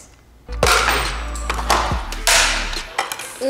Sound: whispers; plastic snaps

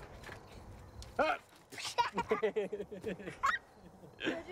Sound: laughter

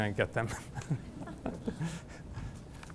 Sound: laughter

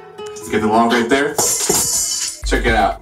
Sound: Protein log crashes on floor

